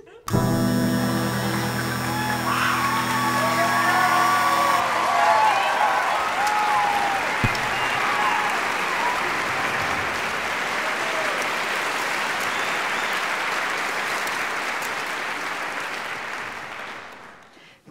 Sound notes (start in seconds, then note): 4.3 audience applause